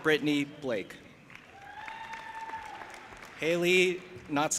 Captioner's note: audience applauding and cheering